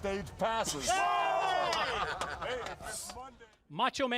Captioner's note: crowd cheering